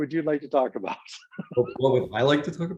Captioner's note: laughs